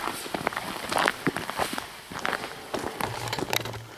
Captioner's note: footsteps crunching